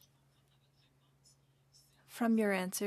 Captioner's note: speaking french